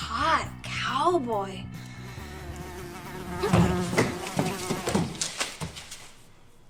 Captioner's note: buzzing